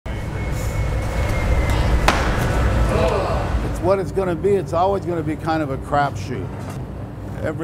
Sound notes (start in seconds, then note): 2.0 loud crash; 2.9 group exclaims